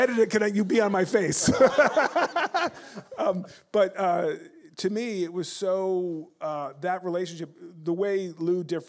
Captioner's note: laughter